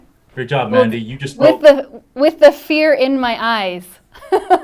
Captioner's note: laughs